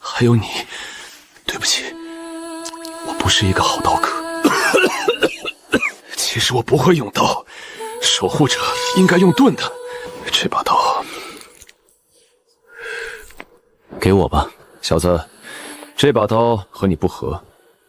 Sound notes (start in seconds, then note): 4.6 ahem